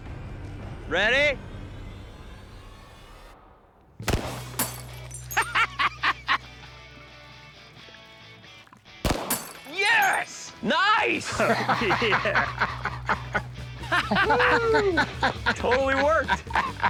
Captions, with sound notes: Ready? [gunshot] [laughs] [gunshot] Yes! Nice! [laughter] - Whoo! - Totally worked.